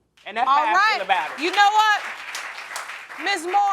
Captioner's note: audience applauding